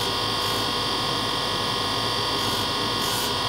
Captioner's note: whirring grinding noise